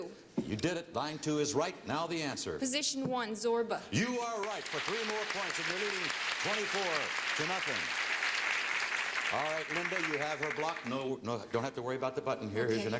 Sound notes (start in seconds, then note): 8.3 applause